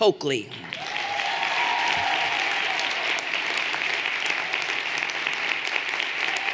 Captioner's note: everyone applauding and cheering